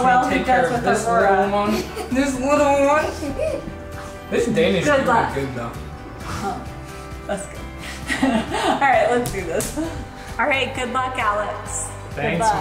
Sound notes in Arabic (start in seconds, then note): 1.6 يضحك; 8.0 يضحك